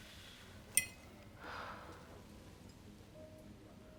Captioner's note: sighs; dramatic piano music